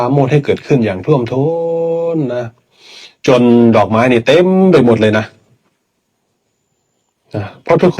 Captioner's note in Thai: เสียงสูดหายใจ